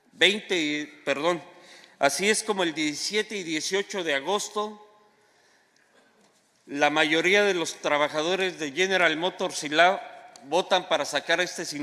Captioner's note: speaking spanish